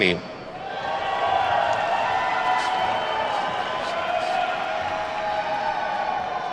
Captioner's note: attendees whooping and clapping